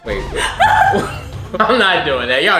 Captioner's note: laughing